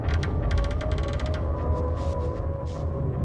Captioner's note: creaking